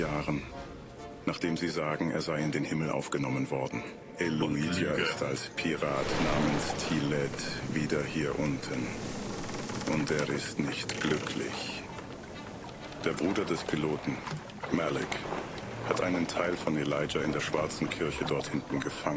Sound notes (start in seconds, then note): 8.3 ship creaking water splashing